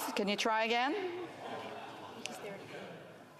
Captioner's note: speaking FRENCH